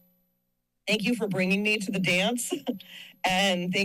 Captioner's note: chuckles